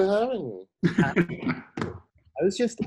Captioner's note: laughing